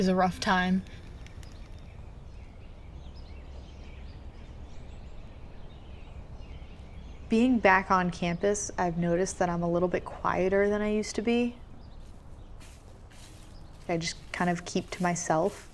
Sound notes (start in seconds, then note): 4.4 birds chirping; 14.0 footsteps on leaves